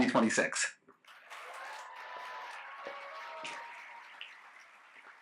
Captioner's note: cheers, applause